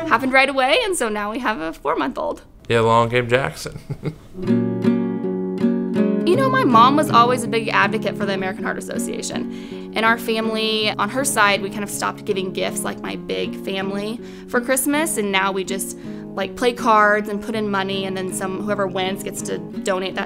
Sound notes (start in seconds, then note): 3.4 laughs; 4.6 upbeat guitar music